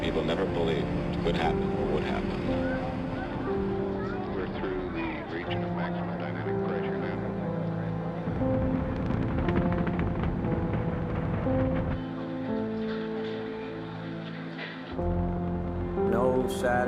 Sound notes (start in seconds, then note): 8.3 rocket roaring